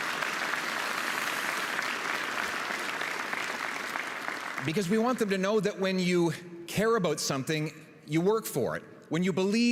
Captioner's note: cheering and Applause